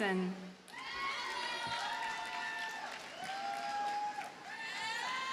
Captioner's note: audience cheers and applauds